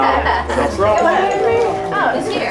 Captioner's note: doorbell rings